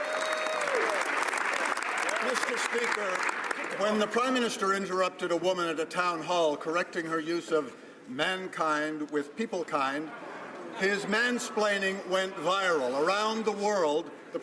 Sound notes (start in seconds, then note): 0.0 speaking French; 2.1 some Applause